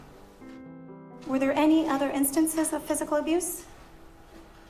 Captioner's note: voiceover